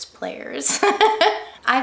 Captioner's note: laughs